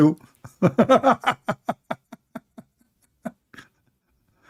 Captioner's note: laughing